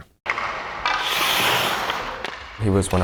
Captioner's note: pucks clattering